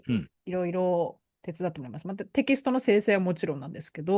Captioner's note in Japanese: 咳払い